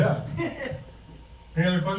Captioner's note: laughs